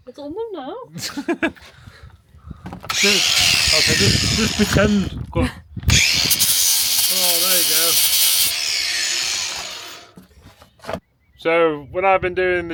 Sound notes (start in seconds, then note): 5.8 drill whirring